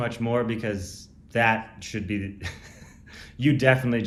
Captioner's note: laughs